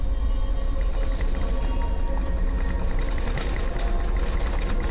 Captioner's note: suspenseful music; rattling and clattering